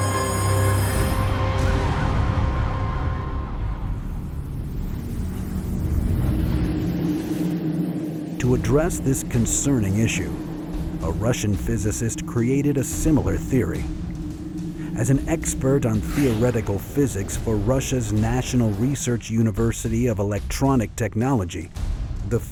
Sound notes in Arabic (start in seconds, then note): 0.1 تنطلق صفارات الإنذار من بعيد; 6.1 أزيز الجسم الغريب